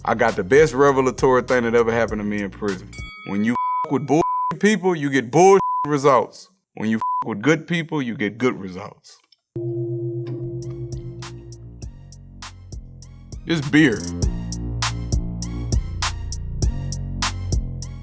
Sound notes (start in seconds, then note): 2.9 bell dings; 3.5 beep; 7.0 beep; 9.6 gong chimes; 14.7 intense music